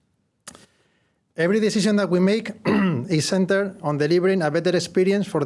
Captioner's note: cough